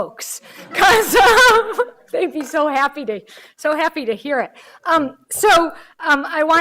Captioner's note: laughing